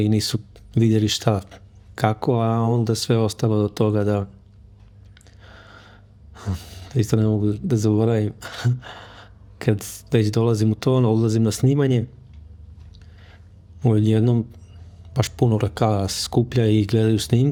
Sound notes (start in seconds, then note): 6.4 sigh